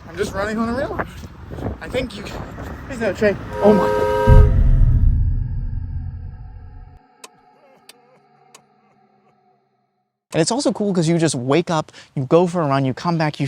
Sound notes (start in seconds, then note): 3.4 train whistles; 6.4 serious music; 7.4 sobbing